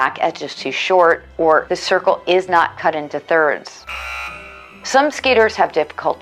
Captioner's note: hockey buzzer